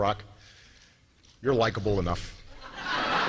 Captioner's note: laughter